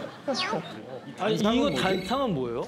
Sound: laughing

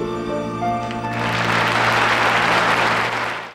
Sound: audience applauds

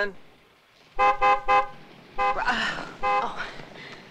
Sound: horn honking

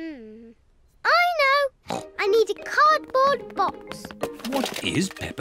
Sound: snorts

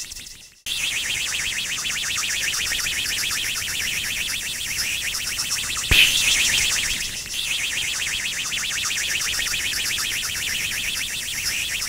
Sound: rocket engine

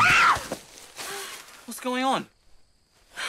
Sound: scream

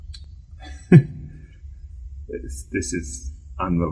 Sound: laughs

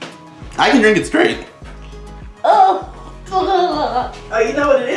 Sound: general sounds of regret and disgust

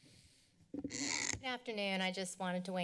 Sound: mic squeaks

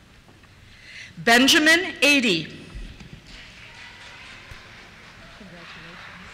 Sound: applause

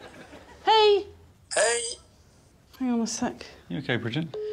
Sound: speaks Swedish

